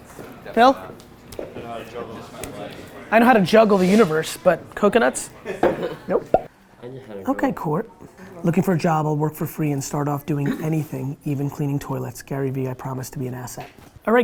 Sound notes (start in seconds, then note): 6.2 laughs